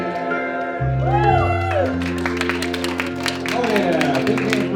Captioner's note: applause